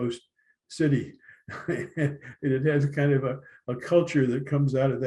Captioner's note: laughter